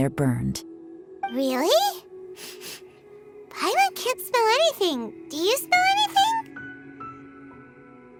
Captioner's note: sniff